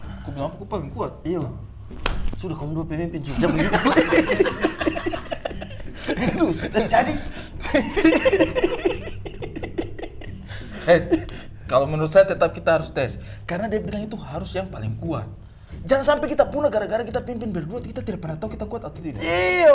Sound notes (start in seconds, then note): 3.3 laughing